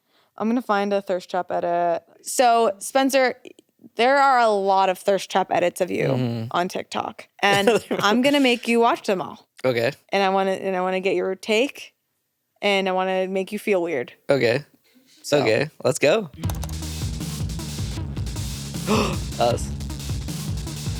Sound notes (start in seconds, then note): 16.3 upbeat music; 18.8 gasps